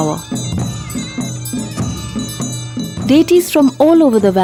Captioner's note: bells jingling; reed pipe music; soft drumming